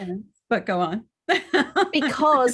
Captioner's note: laughs